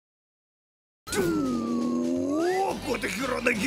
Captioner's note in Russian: вой анимэшника